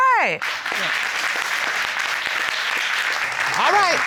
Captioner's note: crowd applauding